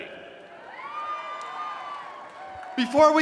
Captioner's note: cheering